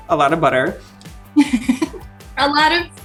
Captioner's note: laughing